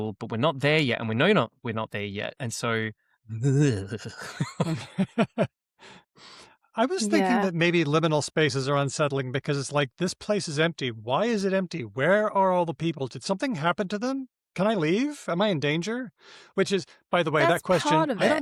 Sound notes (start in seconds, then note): 6.7 laughter